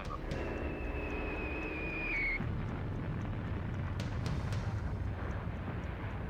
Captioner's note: missiles and explosions